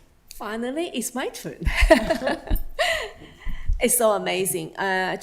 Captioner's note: laughs